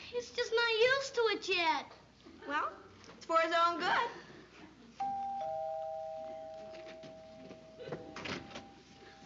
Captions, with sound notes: He's just not used to it yet. Well, it's for his own good. [DOORBELL RINGS]